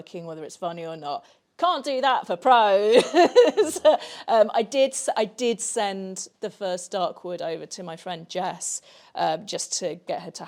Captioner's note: laughs